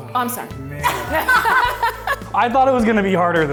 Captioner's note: laugh